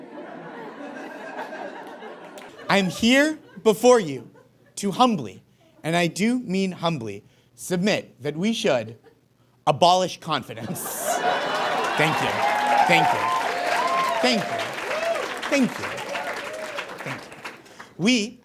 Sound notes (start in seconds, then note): 0.0 audience chuckles; 10.6 audience laughs and cheers